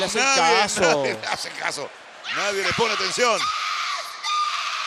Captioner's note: laugh